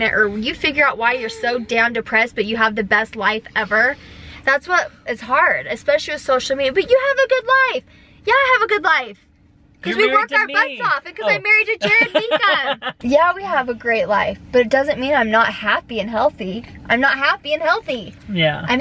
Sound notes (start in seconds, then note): 11.8 laughing